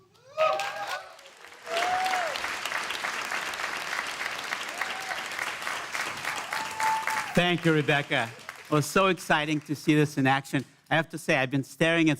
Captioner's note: applause